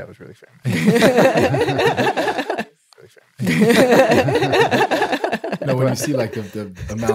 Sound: laughing

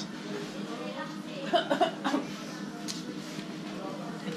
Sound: slight coughing

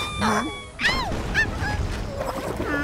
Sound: Magenta whimpers

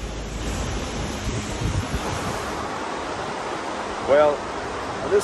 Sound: wind whipping; falls whooshing

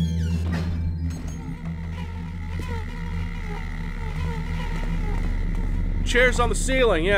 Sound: insects buzzing

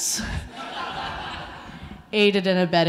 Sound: audience laughing

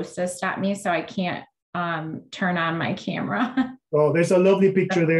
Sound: chuckles

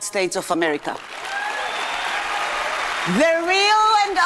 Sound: audience applauding and cheering

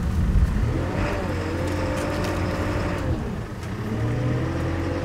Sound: telehandler engine revving

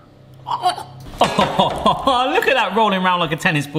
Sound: laughing

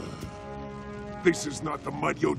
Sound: grunting

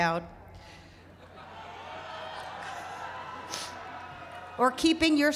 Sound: laughter

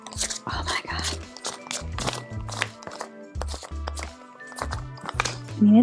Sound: sticky rolling noise

